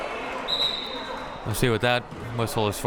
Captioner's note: whistle blowing